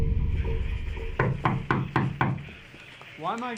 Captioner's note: knocks on door